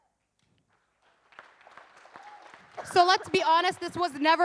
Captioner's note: audience cheers and applauds